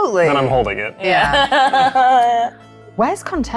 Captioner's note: chuckling